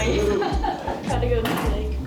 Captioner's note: lady laughing